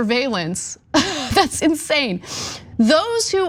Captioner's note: laugh